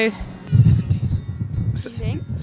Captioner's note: whispering